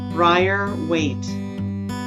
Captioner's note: none